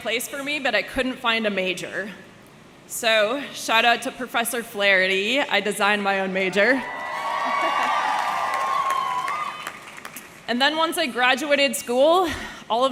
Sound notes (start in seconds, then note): 6.7 audience cheering